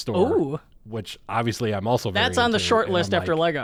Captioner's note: murmurs